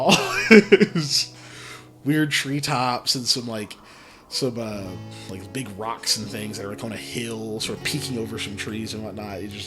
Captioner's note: laughs